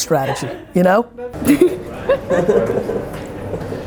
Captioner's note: laughing